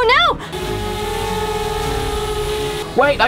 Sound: drone hums

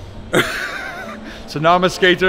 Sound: man laughing

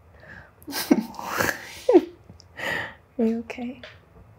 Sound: both chuckle

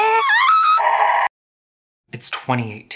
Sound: yells; screams

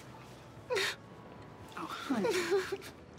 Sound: crying

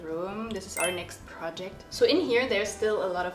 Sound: bell chimes

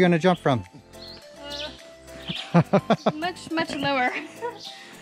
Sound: laughs

